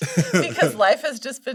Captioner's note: both chuckle